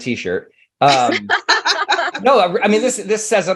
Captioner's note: laughing